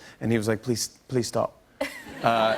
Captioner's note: laughter